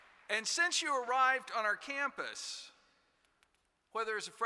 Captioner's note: applause